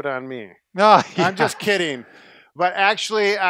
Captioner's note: laughter